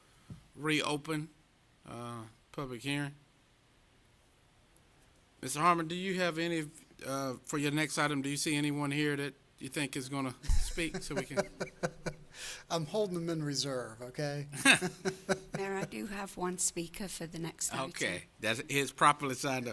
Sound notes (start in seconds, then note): 14.5 laughter